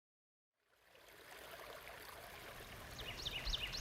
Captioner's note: water bubbling; birds chirping